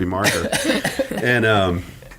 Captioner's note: laughing